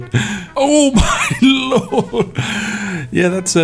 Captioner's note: laughs